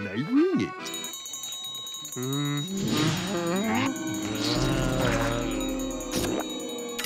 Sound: bell ringing

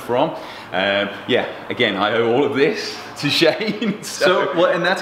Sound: laughs

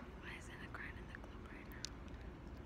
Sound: whispering

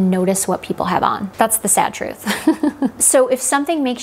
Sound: laughing

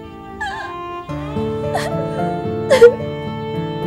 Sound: cries

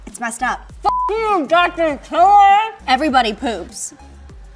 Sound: beep

